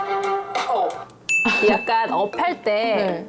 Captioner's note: sound effect: got a good idea